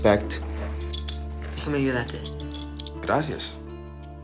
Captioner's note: speaking Spanish